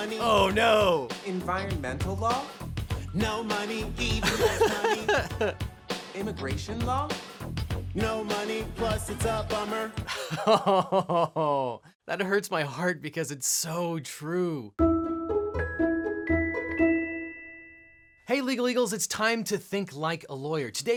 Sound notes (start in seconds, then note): 10.1 laughs; 14.7 playful music